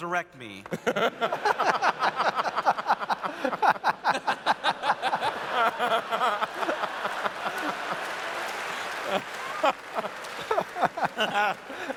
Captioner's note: laughter